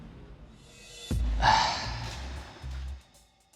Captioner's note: sighs